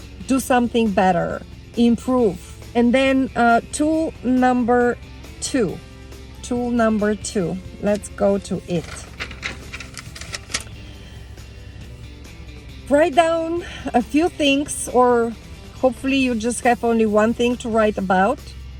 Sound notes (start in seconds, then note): 8.8 paper fluttering; 10.9 upbeat music